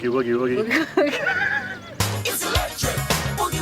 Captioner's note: laughing